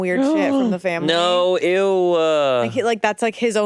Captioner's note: gasps